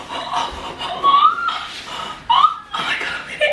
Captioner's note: squeals excitedly